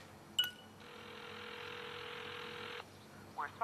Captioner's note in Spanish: Suena tono de llamada